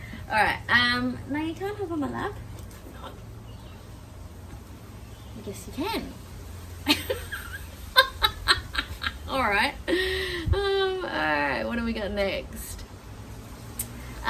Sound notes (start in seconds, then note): 6.8 continues chuckling; 6.9 cackles